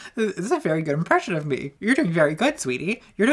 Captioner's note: laughs